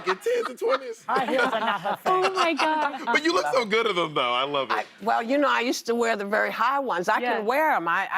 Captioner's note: laughter